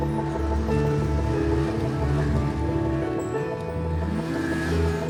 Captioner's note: snowmobile roars